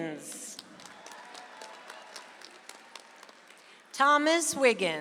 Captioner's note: audience applauds